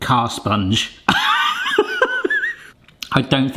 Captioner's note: laughs